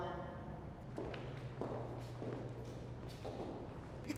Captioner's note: footsteps